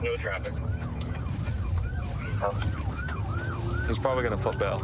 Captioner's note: sirens wailing